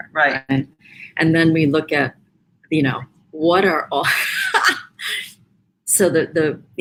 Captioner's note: laughs